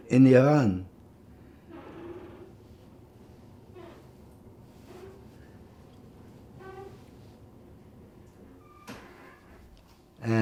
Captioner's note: pauses 8 seconds